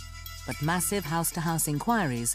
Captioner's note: voiceover